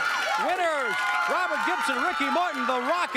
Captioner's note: crowd cheering